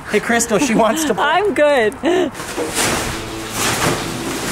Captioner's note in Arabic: تضحك